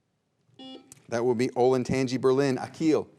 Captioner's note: buzzer beeps